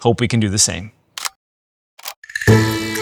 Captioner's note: camera clicking